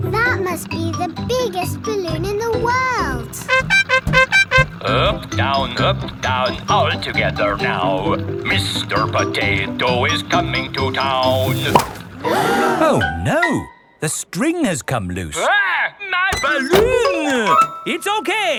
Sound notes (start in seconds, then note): 3.4 horn beeping; 12.1 all gasp